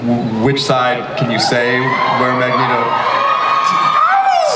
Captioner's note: audience cheers